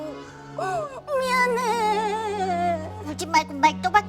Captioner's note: sob